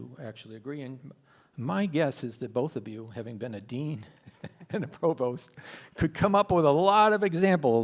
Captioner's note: laughs